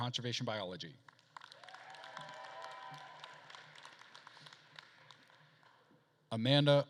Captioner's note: attendees applauding and cheering